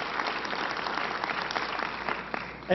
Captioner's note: applause